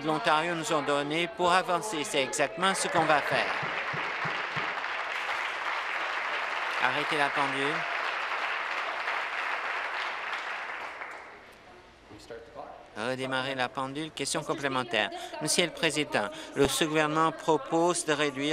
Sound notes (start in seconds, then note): 5.5 applause